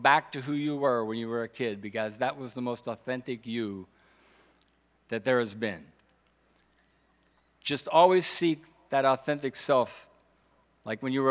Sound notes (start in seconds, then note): none